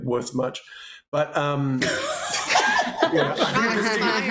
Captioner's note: laughter